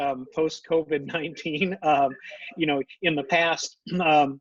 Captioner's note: laughs